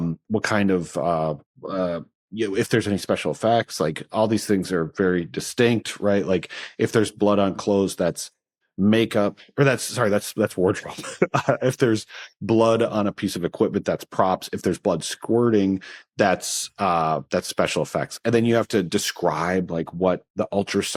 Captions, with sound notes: What kind of, uh... If there's any special effects. Like, all these things are very distinct, right? Like, if there's blood on clothes, that's makeup, or that's-- sorry, that's wardrobe. (LAUGHS) If there's blood on a piece of equipment, that's props. If there's blood squirting, that's-- that's special effects. And then you have to describe, like, what the ultrasound is